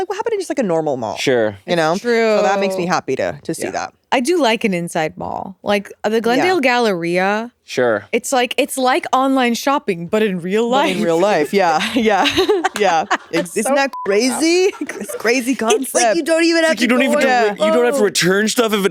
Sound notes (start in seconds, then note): 12.4 laughing; 13.7 beep